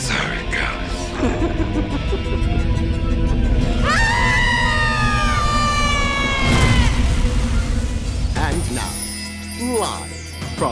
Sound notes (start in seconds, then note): 1.1 laughs; 3.7 screaming